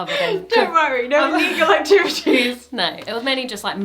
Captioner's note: talking and laughing